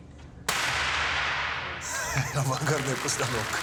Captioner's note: gunshot